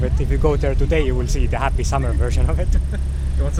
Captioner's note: chuckles